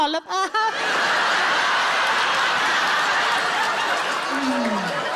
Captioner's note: audience laughs and applauds